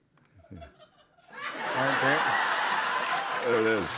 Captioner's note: laughter